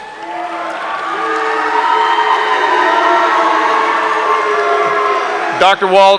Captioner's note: audience applauding; audience cheering